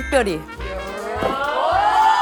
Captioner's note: flap